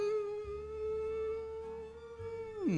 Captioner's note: hums